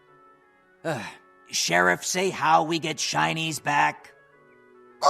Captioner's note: sigh